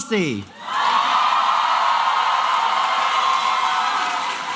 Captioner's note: applause and cheering